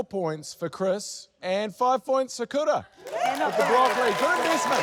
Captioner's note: applause